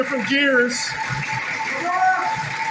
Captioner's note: engine idling